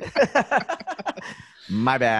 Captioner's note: laughs